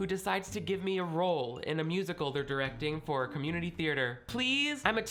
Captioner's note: none